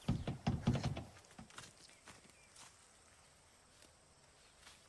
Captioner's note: window thumping; footsteps thumping